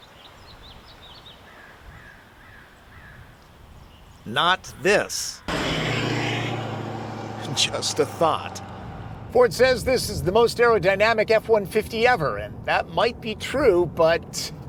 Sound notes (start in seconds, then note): 0.0 nature sounds; 5.4 truck sound up